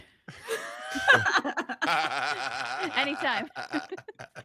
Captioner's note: all laugh